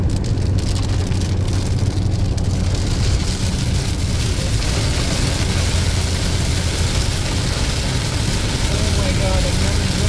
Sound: heavy rain fall

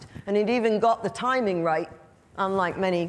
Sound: none

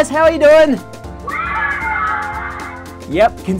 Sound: screams

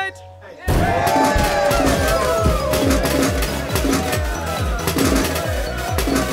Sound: everyone cheering; upbeat music starts playing

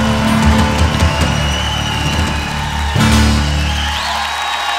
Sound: audience cheering

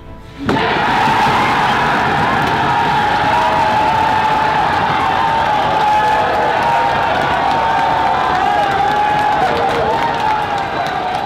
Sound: team Cheering

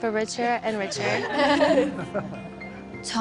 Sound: laughter

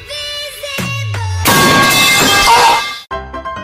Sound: metal pipe sound effect

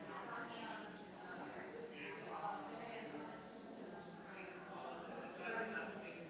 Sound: people chattering distantly continues

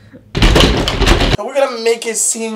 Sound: loud Chair Thrusting Noises

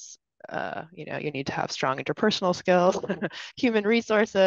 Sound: chuckles

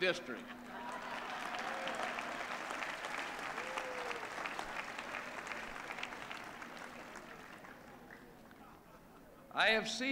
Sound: cheers, applause

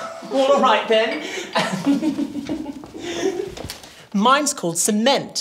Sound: Cecile laughs

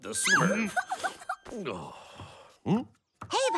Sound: sighing

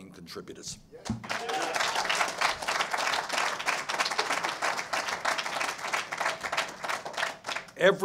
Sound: cheers and applause

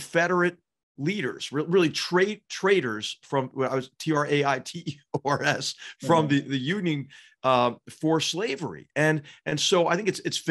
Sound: laugh

